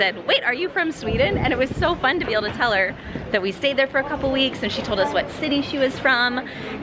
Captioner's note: none